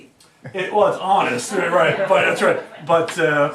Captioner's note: laughs